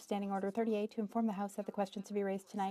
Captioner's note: speaking French